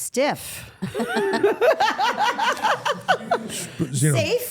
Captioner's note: everyone laughs